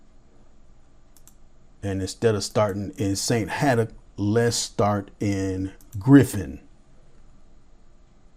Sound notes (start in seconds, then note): 1.1 mouse clicks